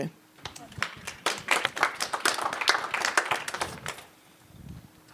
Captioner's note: applause